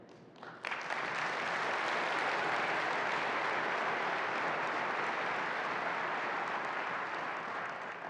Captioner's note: applause